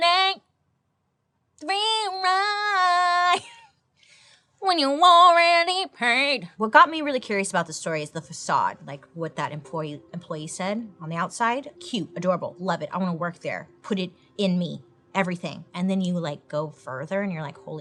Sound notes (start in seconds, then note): 3.6 laughs